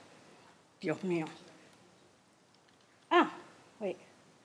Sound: speaks foreign language

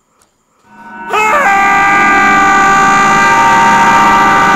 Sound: screaming

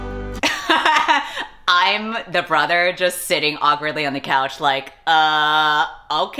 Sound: laughs

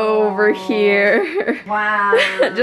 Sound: laughs

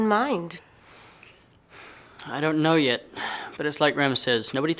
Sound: sighs

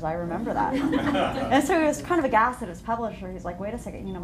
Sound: laughter

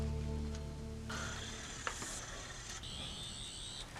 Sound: sonic screwdriver buzzing

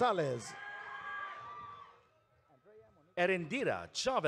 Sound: audience cheering

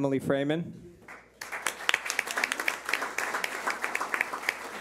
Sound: clapping

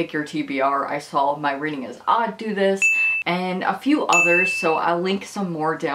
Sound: ping sound

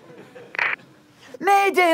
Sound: radio static

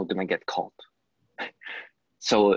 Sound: laugh

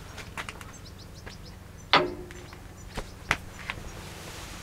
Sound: birds chirping

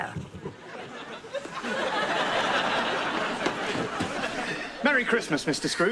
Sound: laughs

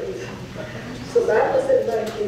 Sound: audience chuckles

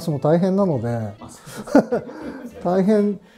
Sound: laughing

